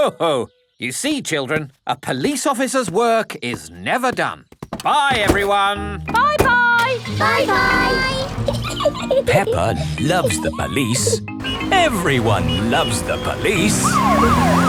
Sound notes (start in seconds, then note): 6.7 engine starts; 8.4 peppa giggling; 14.4 siren wailing